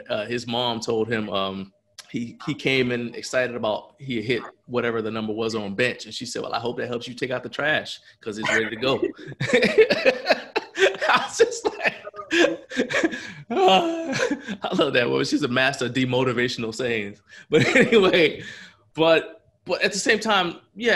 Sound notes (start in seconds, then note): 8.4 laughs